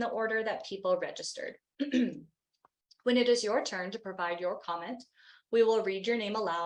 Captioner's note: clears throat